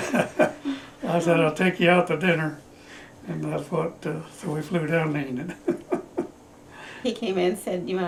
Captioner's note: laughter